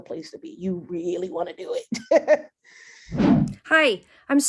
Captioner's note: laughs